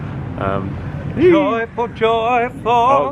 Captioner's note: jubilating